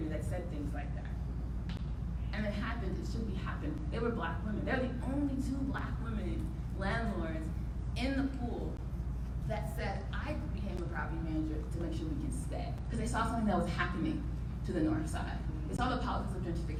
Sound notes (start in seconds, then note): none